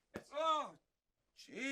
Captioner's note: shouts